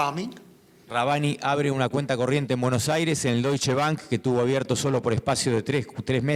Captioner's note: speaking in foreign language